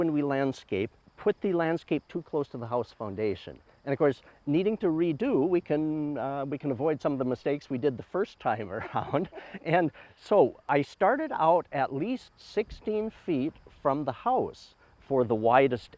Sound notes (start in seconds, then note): 8.6 chuckles